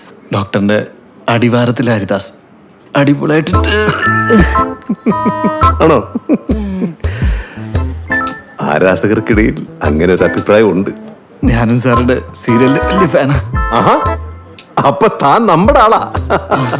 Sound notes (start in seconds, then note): 3.6 laughing